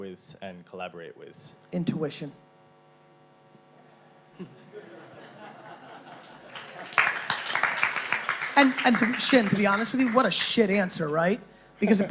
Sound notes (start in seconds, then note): 4.3 chuckling from audience; 6.0 applause